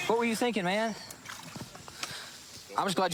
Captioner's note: splashing